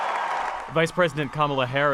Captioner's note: cheering